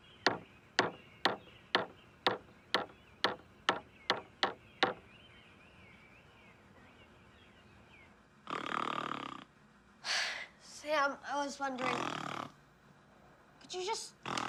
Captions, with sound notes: (hammer pounding) (Sam snoring) - Sam, I was wondering, could you just,